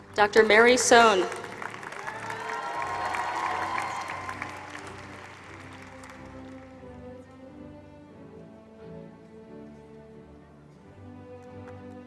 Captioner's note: applause